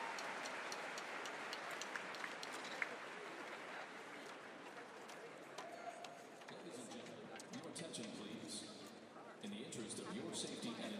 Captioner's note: applause